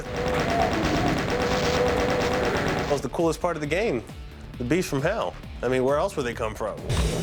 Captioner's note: gunfire